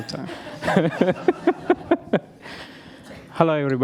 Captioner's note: laughter